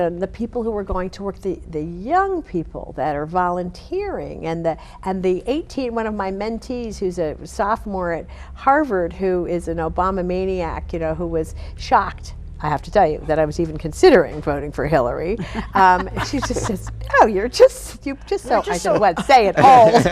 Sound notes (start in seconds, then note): 15.3 laughing